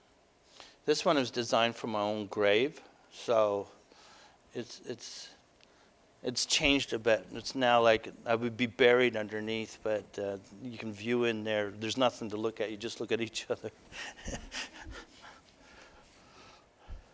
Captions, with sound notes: This one is designed for my own grave. So it's changed a bit. It's now like I would be buried underneath but you can view in there. There's nothing to look at they just look at each other. [Laughter]